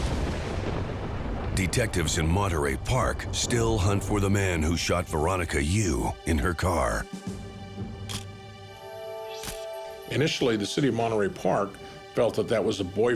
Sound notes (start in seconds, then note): 9.4 camera shutter click